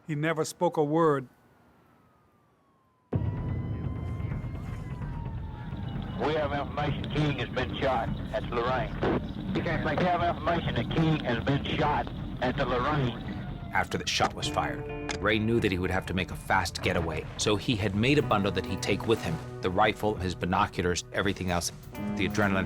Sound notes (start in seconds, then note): 3.2 sirens wailing; 5.8 on police radio